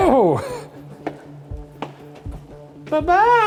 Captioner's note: shoes clacking